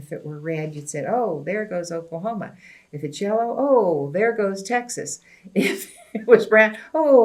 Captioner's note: laughs